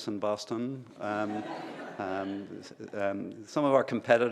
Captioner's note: laughter